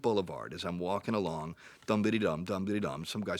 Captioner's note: mimics humming